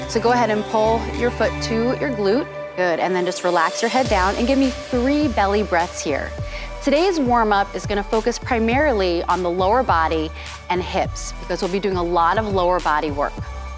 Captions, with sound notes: So go ahead and pull your foot to your glute, good, and then just relax your head down and give me 3 belly breaths here. [3 BELLY BREATHES] Today’s warmup is gonna focus primarily on lower body and hips because we’ll be doing a lot of the lower body work.